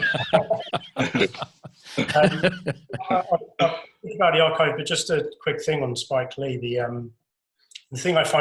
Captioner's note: laughter